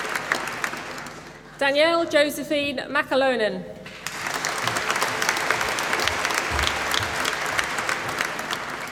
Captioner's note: applause